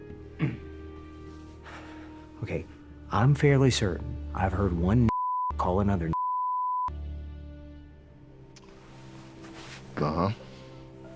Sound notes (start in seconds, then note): 0.3 sighing